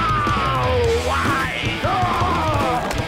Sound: cheering

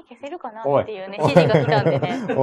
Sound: laughs

